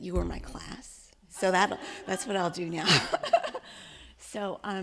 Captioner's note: laughing